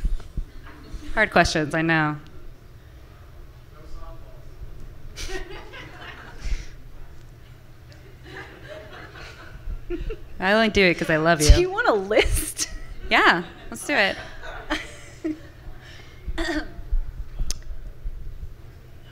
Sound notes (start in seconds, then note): 5.2 laughter from the audience; 9.8 laughing; 13.1 laughs